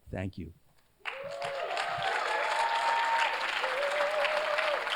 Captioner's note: cheers, applause